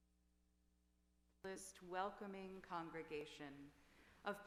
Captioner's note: quietly